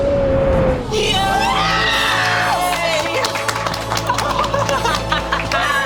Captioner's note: everyone cheering